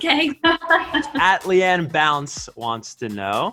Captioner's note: laughs